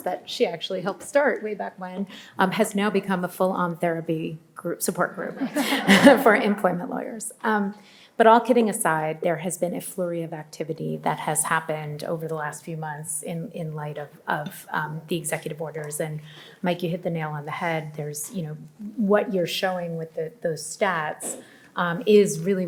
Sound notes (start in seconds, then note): 5.4 audience laughs